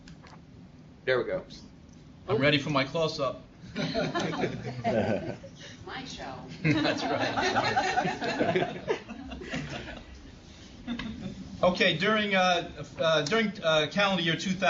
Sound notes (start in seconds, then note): 3.9 laugh; 11.6 laugh